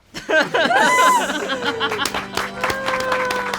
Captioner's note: all laugh; all applaud; somber organ music